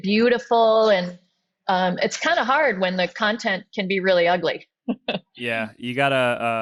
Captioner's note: laughs